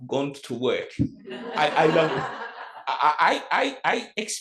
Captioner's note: audience laughs